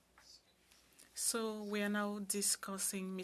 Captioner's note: speaking in French